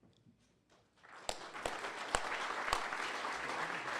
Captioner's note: applause